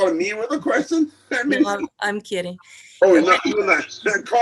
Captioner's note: chuckling; chuckling